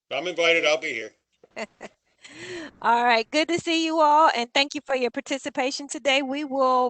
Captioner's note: laughter